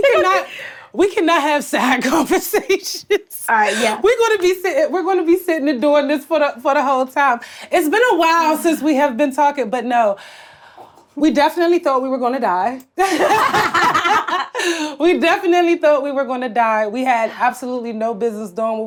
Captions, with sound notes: - We cannot have side conversations. - All right, yeah. - We're gonna be sitting here, doing this for the whole time. It's been a while since we have been talking, but no, we definitely thought we were gonna die. (laughs) (Blac Chyna laughs) We definitely thought we were gonna die. We had absolutely no business doing what we were doing.